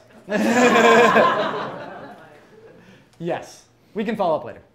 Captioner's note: crowd laughs